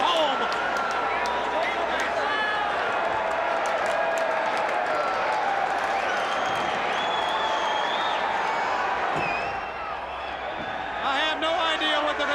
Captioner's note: crowd cheering